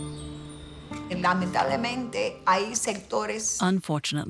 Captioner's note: speaking in Spanish